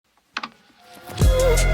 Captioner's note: static buzzing; lo-fi music